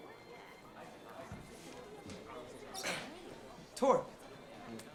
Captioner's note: people chattering indistinctly